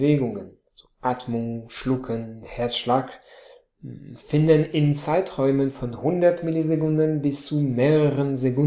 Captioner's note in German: Atmung, Schlucken, Herzschlag